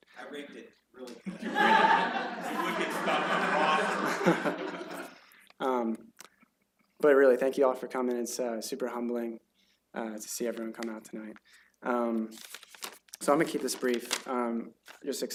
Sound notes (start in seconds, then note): 1.2 laughter